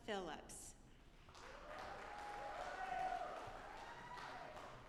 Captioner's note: audience applauding